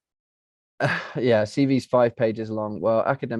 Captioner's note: laughs